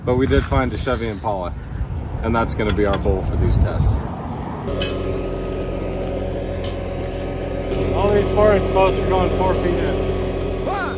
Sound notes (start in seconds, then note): 4.6 engine revving